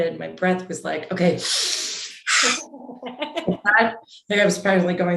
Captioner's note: inhales loudly